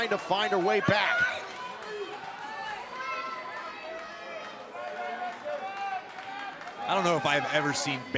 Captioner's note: crowd cheering